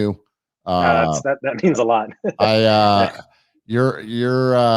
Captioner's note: laughs